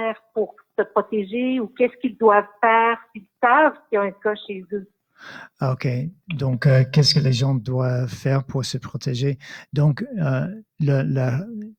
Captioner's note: speaking in French